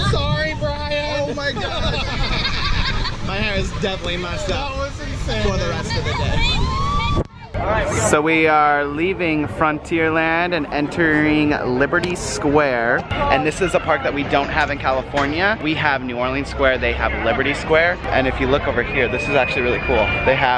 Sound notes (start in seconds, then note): 1.2 laughing; 6.3 cheering